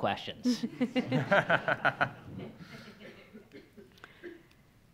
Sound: audience laughs

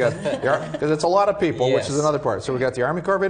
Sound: laugh

